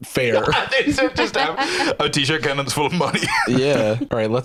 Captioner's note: laughing